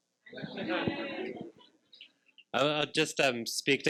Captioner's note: participants laughing